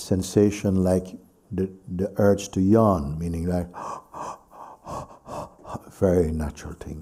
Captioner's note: Mooji demonstrates yawning